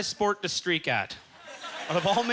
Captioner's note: audience chuckling